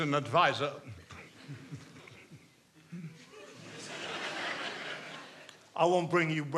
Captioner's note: chuckling; audience chuckling